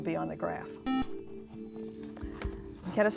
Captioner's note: buzzer